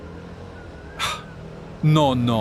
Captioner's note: sighs